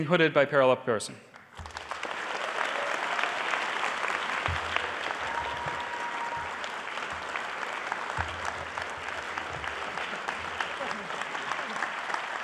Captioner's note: applause